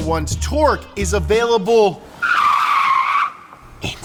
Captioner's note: tires screeching